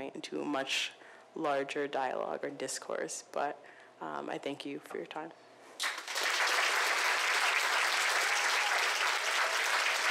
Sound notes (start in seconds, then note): 5.8 audience applause